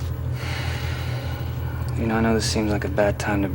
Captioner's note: sighs